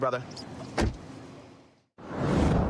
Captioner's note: door shuts